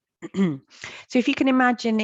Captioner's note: clears throat